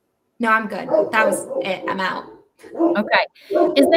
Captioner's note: dog barking